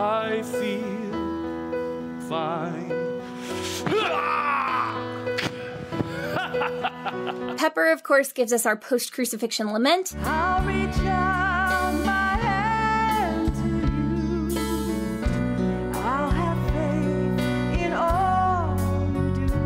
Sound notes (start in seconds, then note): 3.7 Iron Man groaning; 6.0 Loki laughing